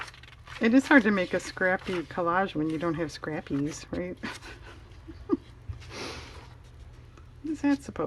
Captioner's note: laughs